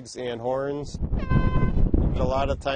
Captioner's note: horn honks